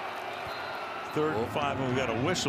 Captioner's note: whistle